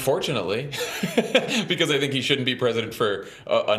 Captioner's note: laughs